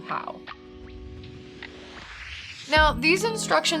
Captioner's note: air whooshing